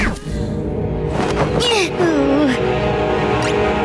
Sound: groaning

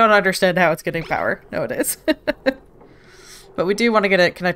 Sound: laughs

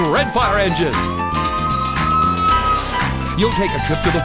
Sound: siren wailing

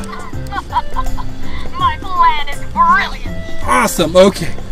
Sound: laughs

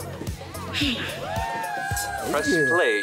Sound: sighing

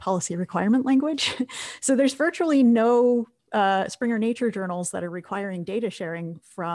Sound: laugh

